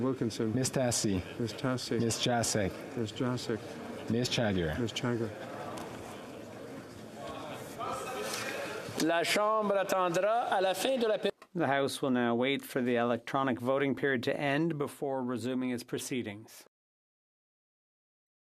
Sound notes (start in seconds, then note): 13.0 speaking French